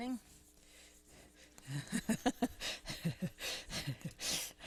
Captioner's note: laughs